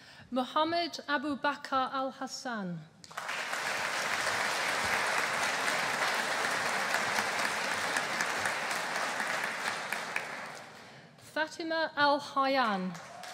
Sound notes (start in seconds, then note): 3.0 audience applauding; 13.0 audience applauding